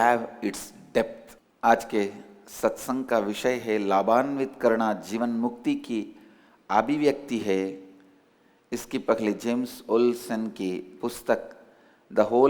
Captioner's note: in HINDI